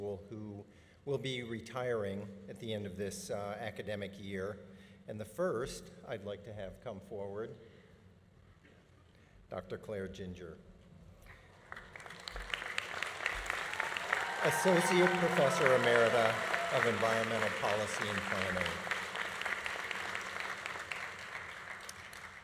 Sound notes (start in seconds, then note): 11.4 audience applauding; 11.4 audience cheering